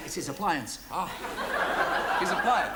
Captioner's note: audience laughs